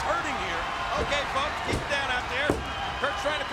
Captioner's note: crowd cheers